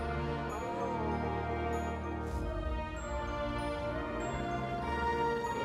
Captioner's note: bright upbeat music; spectators oohing and ahhing